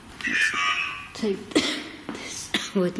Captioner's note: OVILUS buzzing